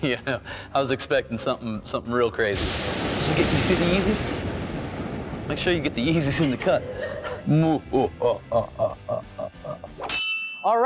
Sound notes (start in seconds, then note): 2.5 lightning striking; 7.9 evil laughter